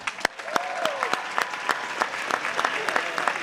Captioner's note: cheers and applause